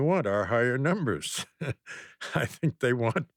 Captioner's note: laughs